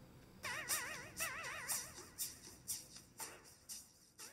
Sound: distorted game audio

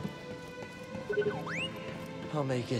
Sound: trill, whistle

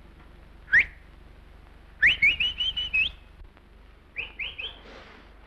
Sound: short whistles

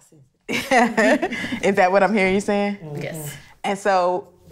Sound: laughs

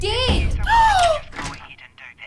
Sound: scream

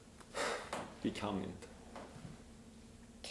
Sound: sighs

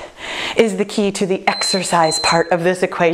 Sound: timer beeping

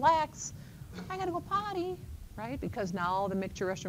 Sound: childish voice

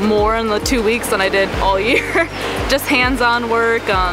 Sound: laughs

